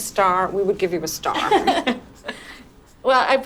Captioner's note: laugh